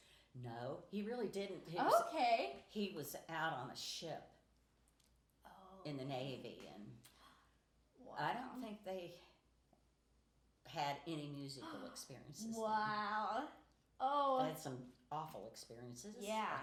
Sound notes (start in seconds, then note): 13.4 gasps